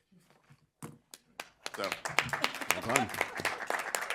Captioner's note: applause